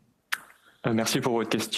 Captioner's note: speaking French